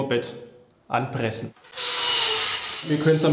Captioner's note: squeaking